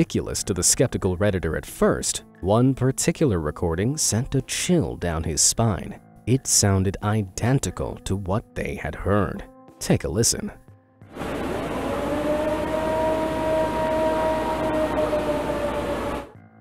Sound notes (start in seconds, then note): 11.2 cryptid eerily roaring